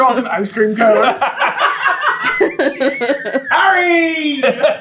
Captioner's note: team laughter